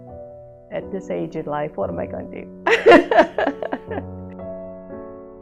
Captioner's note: laughter